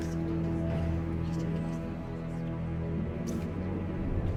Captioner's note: low chatter